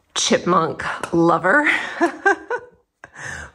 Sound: laughing

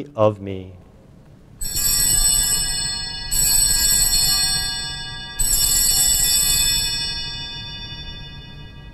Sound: bells ringing

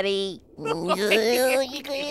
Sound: laughing

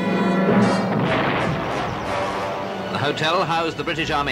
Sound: explosions

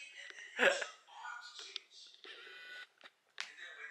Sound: sobbing while watching Mr. Park's video

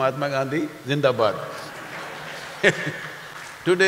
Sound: laughter/Applause

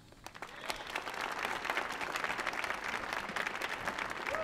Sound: audience applauding

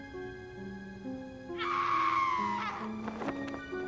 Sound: screaming

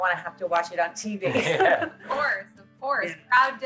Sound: laughs

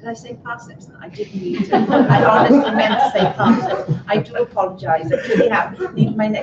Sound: laughter

